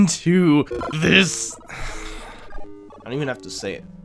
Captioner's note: sigh